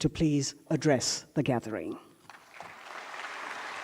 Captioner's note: applause